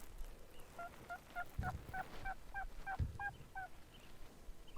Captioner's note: turkey calling